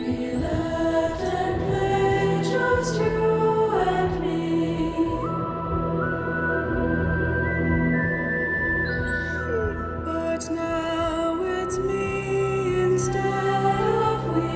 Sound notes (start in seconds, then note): 5.2 somber music; 9.1 whimpers